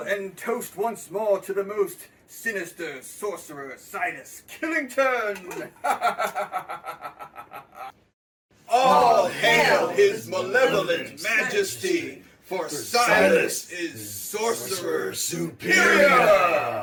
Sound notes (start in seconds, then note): 5.8 all laughing